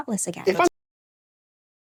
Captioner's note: audio cuts